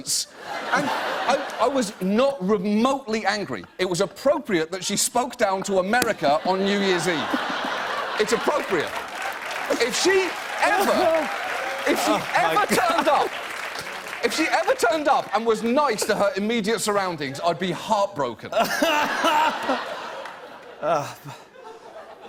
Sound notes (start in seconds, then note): 7.8 cheers and applause; 18.5 laughter